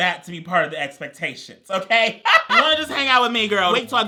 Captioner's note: laughs